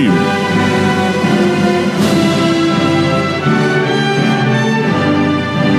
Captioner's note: none